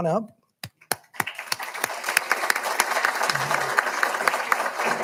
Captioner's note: all applauding